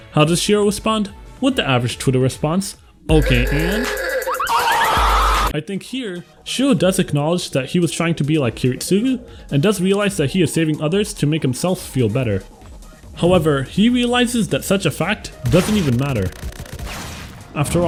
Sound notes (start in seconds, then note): 4.8 Gilgamesh Screams In Pain As He Is Ratioed Into Oblivion